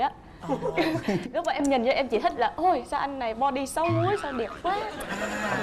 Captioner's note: giggles